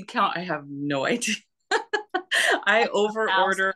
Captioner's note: laughs